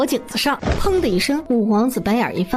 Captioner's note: thud!